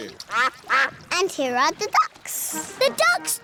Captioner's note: quacking